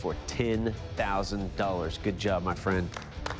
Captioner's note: applause